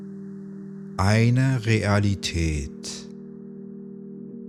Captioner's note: german